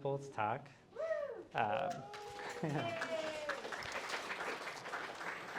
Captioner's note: applause